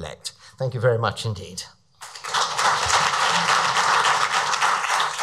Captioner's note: audience applauds